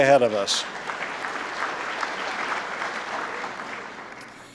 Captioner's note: applause